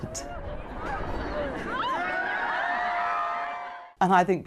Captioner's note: crowd cheering